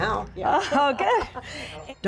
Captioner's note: laughter